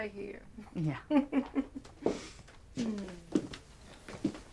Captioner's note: Betty chuckles